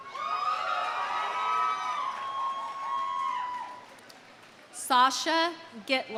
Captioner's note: audience cheering; audience applauding